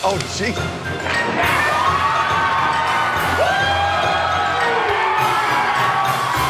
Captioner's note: Gritos e aplausos